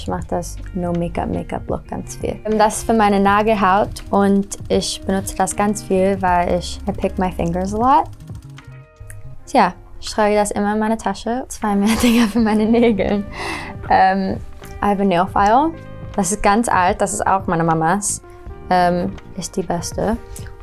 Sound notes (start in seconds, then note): 11.9 laughs